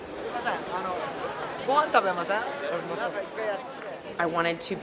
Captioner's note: crowd chatter